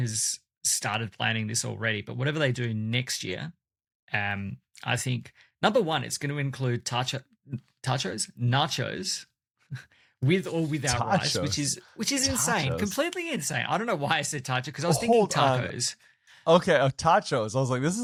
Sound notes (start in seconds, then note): 10.8 laughs